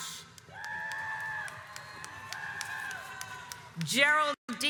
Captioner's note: audience cheers